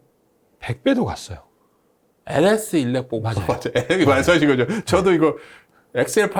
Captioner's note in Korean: 웃음